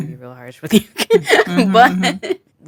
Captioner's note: chuckles